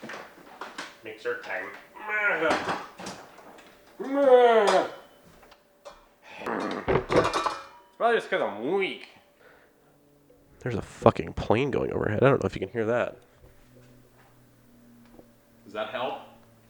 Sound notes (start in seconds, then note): 1.8 weak noises